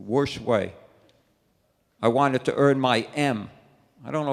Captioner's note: none